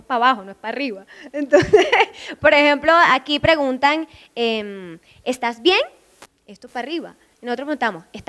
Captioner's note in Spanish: con acento